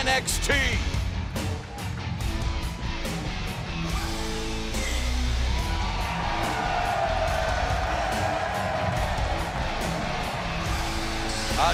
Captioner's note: crowd cheering